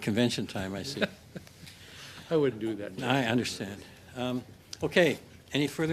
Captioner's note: laughter